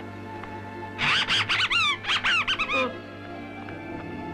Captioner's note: animal screeching